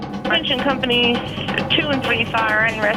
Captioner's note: voiceover